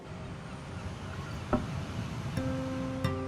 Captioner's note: seagulls squawking